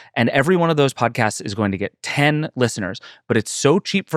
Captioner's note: none